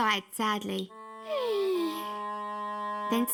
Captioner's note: sighs